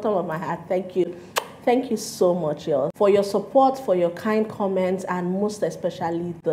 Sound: mwuah

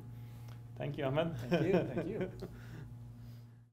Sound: laughs

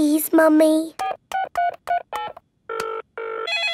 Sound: beeping; phone ringing

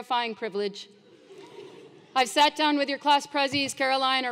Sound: laugh

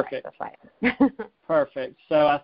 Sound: laughs

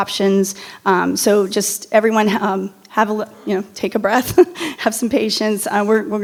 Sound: laughs

